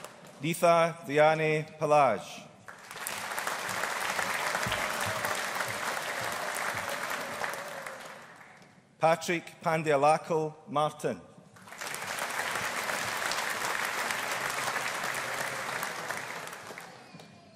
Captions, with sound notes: Neetha Dayani Pallage. (AUDIENCE APPLAUDING) Patrick Pandyalackal Martin. (AUDIENCE APPLAUDING)